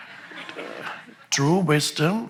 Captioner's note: audience laughs